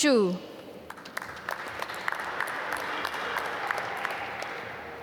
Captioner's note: applause